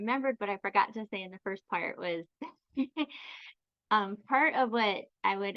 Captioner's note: chuckles